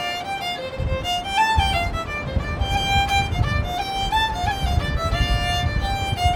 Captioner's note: wind noise